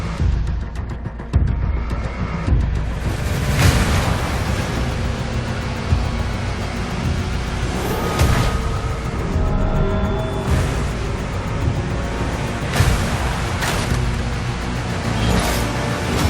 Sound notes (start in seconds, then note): 2.8 mechanical breathing